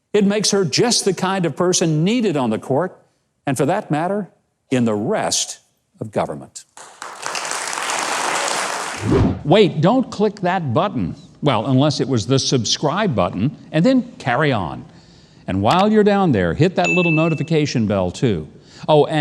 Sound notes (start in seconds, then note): 6.7 audience applauds